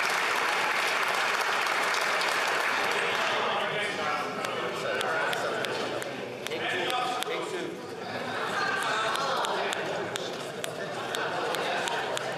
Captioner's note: applause